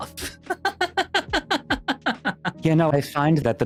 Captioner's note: laughing